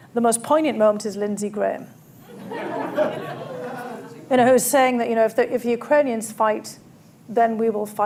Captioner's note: laughter